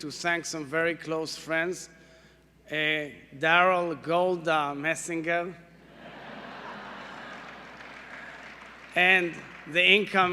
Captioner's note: laughter